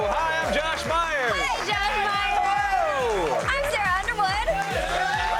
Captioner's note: cheers and applause